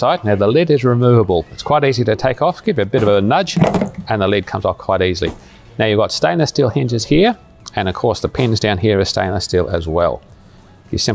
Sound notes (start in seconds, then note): 3.5 lid clicks